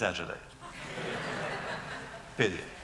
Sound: laughter

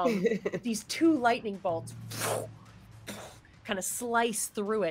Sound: laughs; mimics whoosh

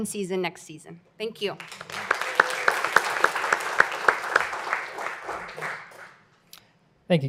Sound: applause

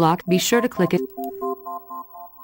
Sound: clicking

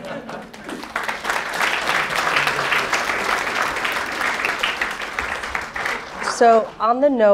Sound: laughter; applause

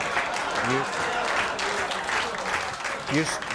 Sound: audience applauding

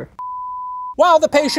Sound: beep

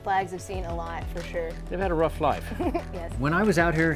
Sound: chuckles

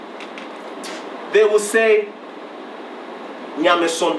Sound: speaking in foreign language

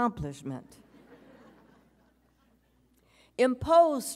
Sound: audience chuckles

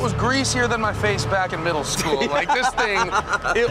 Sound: laughing

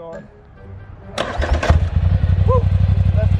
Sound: engine revving

